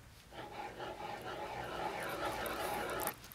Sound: pen scratching

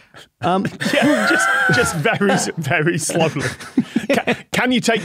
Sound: group laughing

